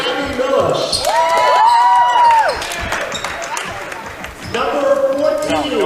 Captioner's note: cheering